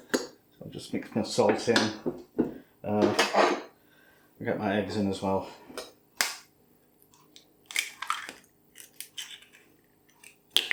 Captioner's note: breaking eggs